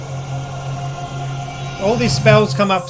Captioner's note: restoration Spell Sound